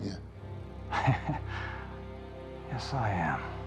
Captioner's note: Dodds laughing